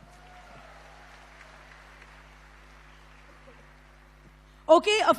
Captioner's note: applause